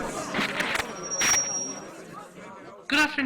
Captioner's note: coughing, sputtering; microphone feedback